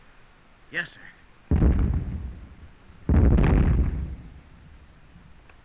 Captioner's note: explosions continue